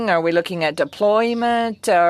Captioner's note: speaking french